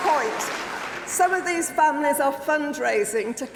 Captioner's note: applause